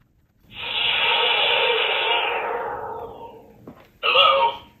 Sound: robot whooshing

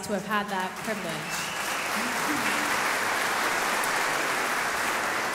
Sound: audience applauding

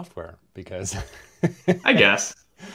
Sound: laughs

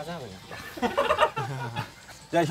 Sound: laughing

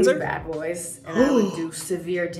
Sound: Hyram gasping

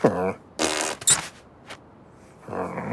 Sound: Mouse blows a raspberry

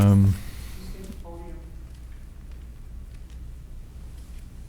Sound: woman speaking faintly

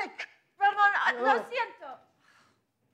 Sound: speaks in foreign language

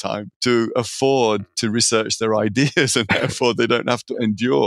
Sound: laughing

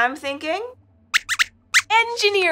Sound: squeaks squeaks

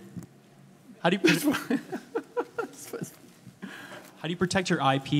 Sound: laughing

